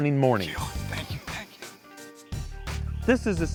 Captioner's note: whispering